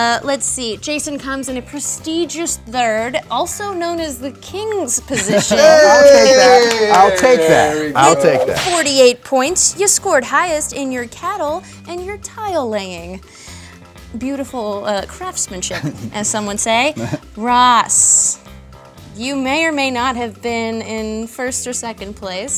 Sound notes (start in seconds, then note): 5.1 laughs